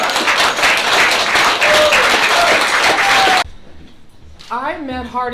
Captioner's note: applause